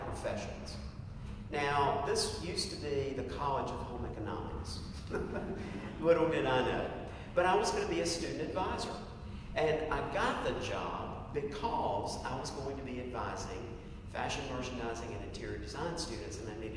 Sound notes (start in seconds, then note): 5.0 laugh